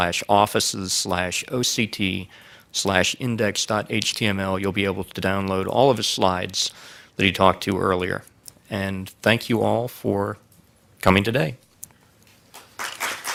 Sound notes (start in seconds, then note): 12.5 applause